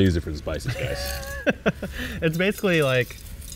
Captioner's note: chuckles